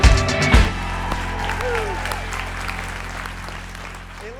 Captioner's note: applauding